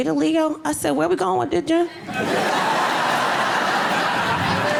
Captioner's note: audience laughing